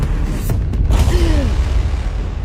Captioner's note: gasps